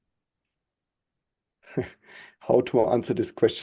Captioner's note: chuckles